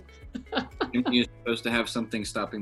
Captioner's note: laughs